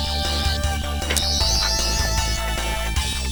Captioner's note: whirring intensifies; sonic screwdriver whirring